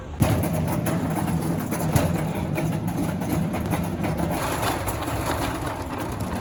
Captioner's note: shopping cart wheels rolling